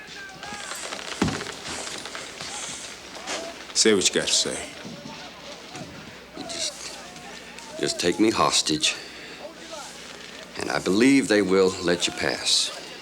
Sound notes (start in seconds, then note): none